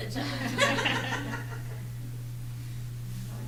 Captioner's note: laughter